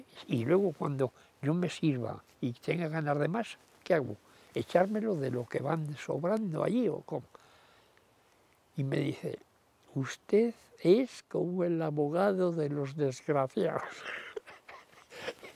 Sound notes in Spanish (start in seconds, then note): 13.9 Ríe